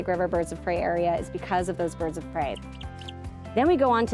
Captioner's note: bird chirping